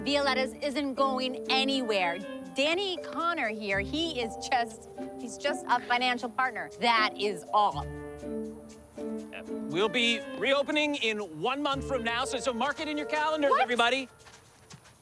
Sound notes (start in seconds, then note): none